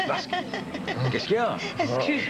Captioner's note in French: Rires